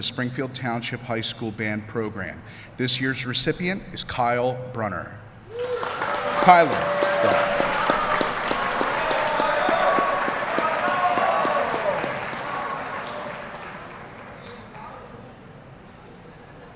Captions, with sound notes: Springfield Township High School band program. This year's recipient is Kyler Brunner. (Applause)